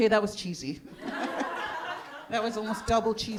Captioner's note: audience laughing